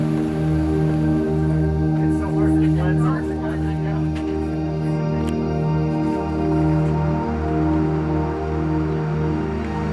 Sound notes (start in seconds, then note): 2.0 people chatting